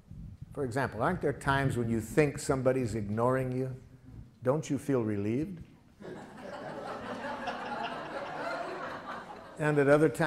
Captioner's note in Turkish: Gülüşmeler